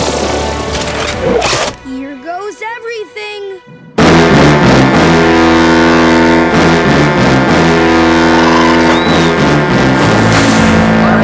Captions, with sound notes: Here goes everything! [horn blaring] [horn blaring]